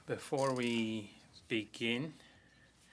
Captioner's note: speaking French